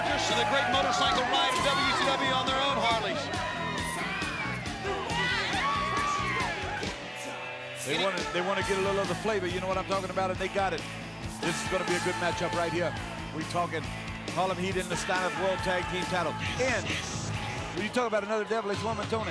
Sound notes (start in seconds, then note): 3.4 crowd cheering